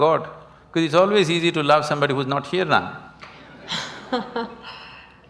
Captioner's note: Juhi Laughs